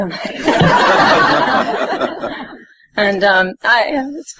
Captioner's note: audience laughing